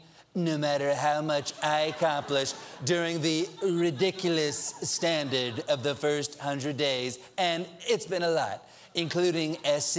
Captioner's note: laughter